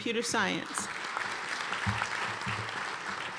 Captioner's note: applause